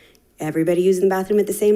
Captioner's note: none